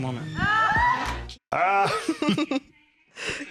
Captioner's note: squeals